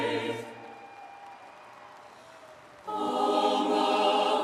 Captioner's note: audience applauds